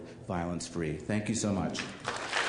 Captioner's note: applause